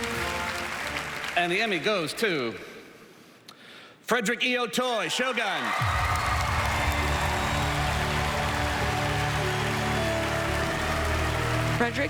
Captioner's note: applause